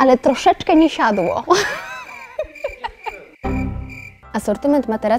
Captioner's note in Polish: śmiech